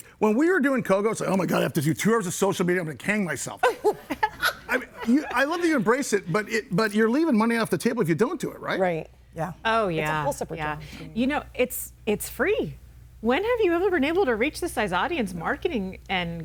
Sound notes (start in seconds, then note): 3.6 laughs